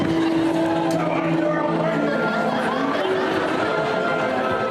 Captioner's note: cheering